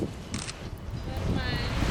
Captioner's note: camera shutters